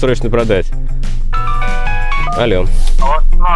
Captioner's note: phone ringing